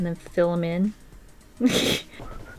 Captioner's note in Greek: Γέλια